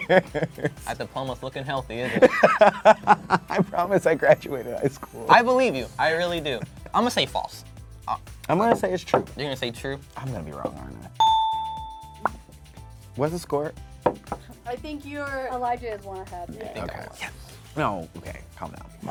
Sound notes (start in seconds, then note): 0.0 laughing; 2.0 laughing; 11.2 dinging; 14.0 popping